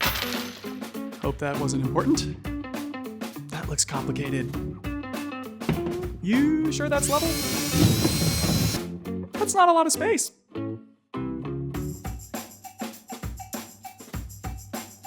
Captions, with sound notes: (nails clatter) - Hope that wasn't important. That looks complicated. (mount bangs) - You sure that's level?. (drill whirls) That's not a lot of space. (upbeat music playing)